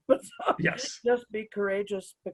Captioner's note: chuckles